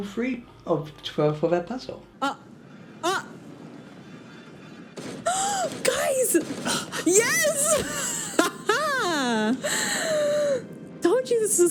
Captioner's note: stammers; gasps; sighs